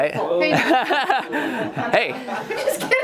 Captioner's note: laughs